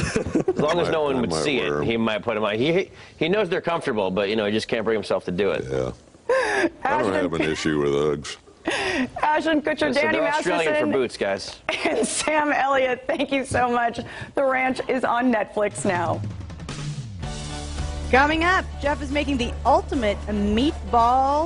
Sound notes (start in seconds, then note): 7.4 laughter